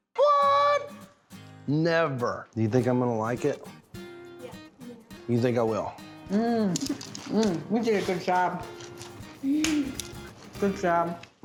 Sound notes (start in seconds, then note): 6.7 crunchy sound